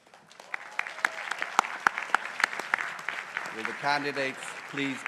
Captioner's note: crowd applauding